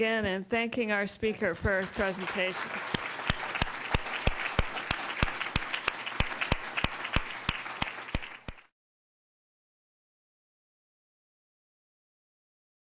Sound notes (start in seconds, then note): 3.2 audience clapping